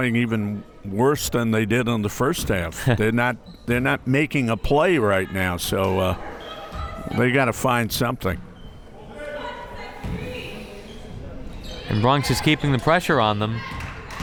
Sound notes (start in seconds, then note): 9.1 crowd members shouting